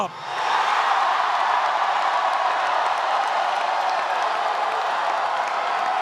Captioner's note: cheering and applause